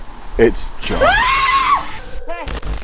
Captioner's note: Leona screams